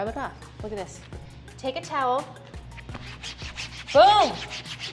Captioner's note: sound of wiping mat